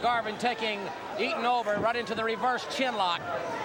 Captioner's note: crowd chattering